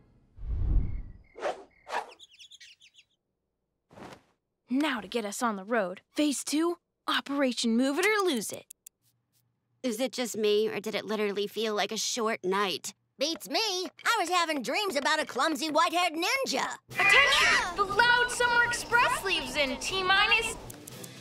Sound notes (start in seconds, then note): 1.6 birds chirping